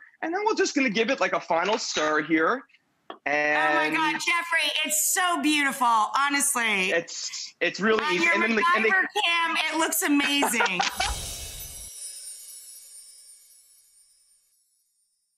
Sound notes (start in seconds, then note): 10.0 laughs